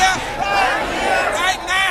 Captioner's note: crowd